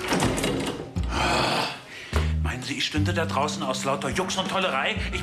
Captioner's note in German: stöhnt